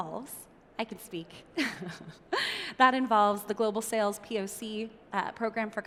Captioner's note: chuckles